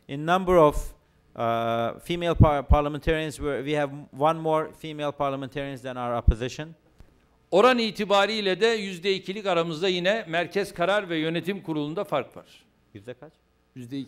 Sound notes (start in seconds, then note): 8.7 non-english speech